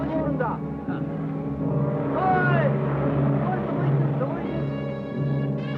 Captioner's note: japanese men talking excitedly